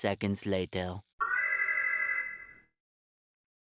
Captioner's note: alarm